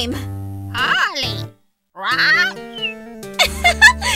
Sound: squawk

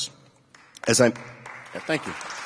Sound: applause

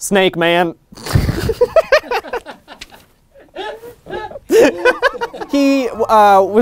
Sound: laughter from everyone in the studio

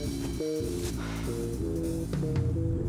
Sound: sighs

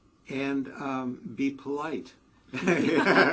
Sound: laugh

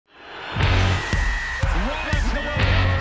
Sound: cheering, whistle blows

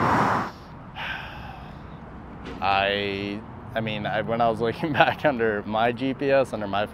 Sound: sighs

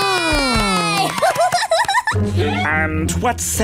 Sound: applauding; giggling

